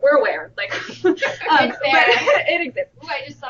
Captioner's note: laughter